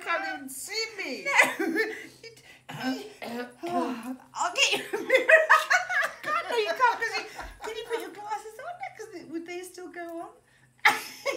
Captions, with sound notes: I cant even see me no (clears throat) I'll get you a mirror Oh no you can't, cos you can't see. Can you put your glasses on? Would they still go on?